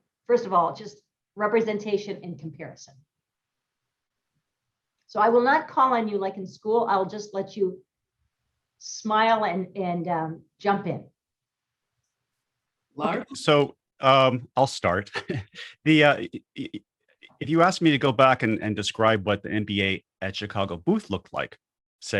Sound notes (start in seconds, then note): 15.0 laughs